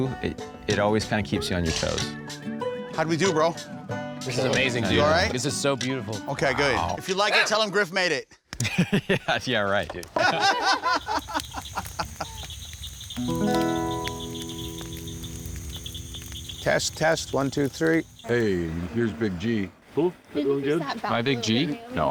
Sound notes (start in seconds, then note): 10.1 laughing